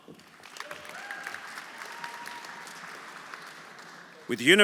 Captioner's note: audience applauding; audience cheering